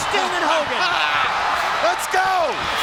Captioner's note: fans cheering